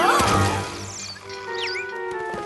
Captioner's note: crash